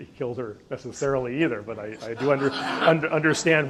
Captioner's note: audience laughs